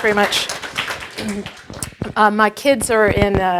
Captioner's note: applause